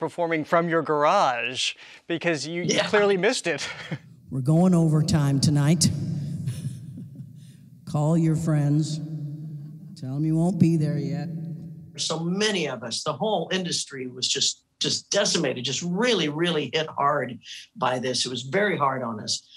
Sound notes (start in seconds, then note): 3.5 laughing; 6.4 chuckling